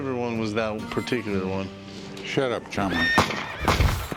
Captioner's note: horse whinny; gunshots